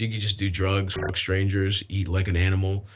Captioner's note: beeps